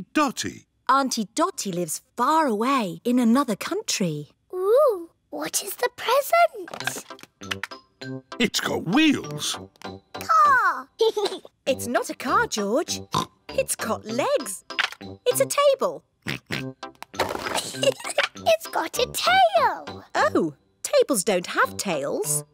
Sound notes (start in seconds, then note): 10.3 giggles; 13.1 oinks; 16.2 oinks; 17.5 giggles